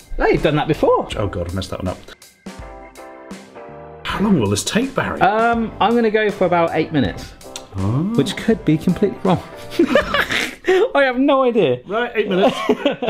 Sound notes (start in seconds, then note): 9.6 laughs